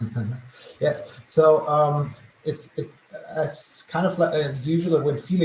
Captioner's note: laugh